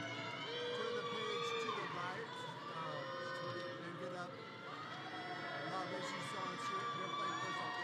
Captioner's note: audience cheering